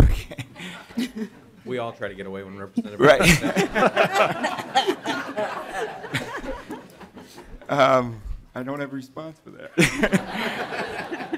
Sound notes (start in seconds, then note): 9.8 laughter